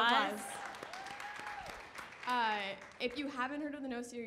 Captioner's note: hands clapping